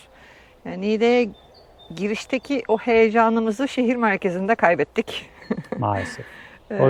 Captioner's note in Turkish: kahkaha